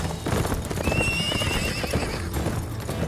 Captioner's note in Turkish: At kişniyor